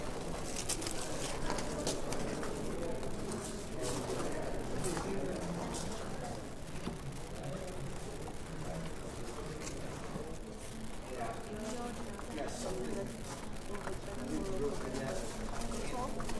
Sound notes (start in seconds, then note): 4.3 visitors chattering indistinctly